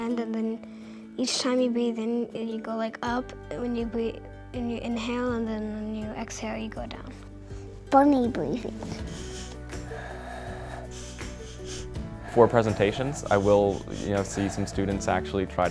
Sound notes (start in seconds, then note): 8.7 exhales; 8.7 inhales